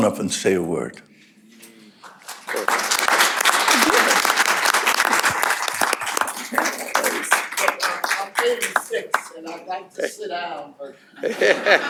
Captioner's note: applause